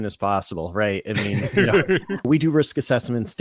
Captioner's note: laughs